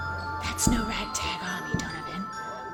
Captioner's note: hushed